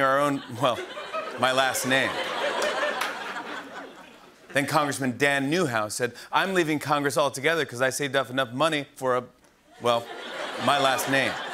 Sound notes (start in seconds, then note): 2.8 laughter